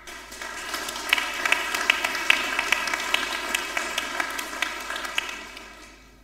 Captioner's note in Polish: oklaski